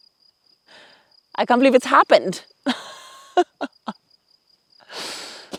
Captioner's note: laughs